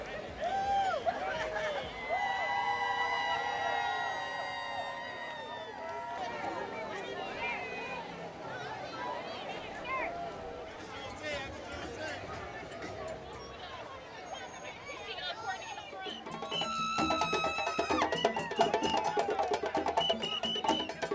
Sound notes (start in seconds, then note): 0.2 crowd cheering; 7.4 festive street ambience; 12.8 festive street ambience; 16.1 parader screams; 16.1 upbeat drum music; 18.0 whistle trills